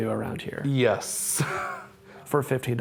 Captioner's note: laughter